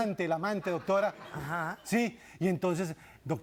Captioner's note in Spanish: risas del público